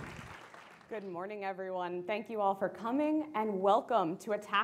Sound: applause

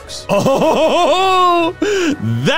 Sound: cheering

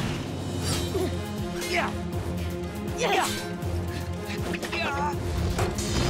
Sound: grunting

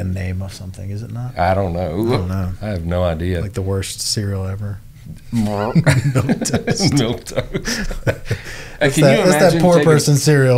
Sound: laughter

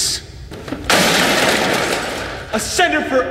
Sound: boxes smashing

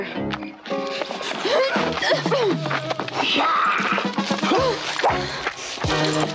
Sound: struggling; tense music

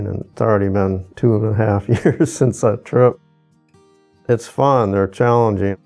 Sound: chuckles

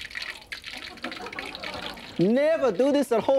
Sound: audience laughing

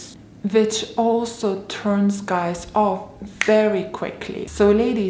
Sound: snaps fingers

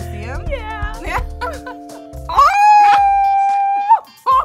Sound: yelps

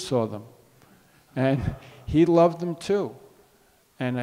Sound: audience laughs

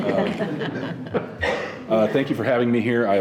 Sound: members laughing

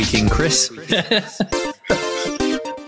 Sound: laughing

